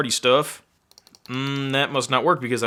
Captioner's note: mouse clicking